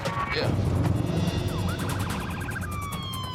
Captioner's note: siren wailing